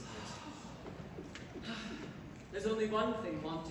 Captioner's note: sigh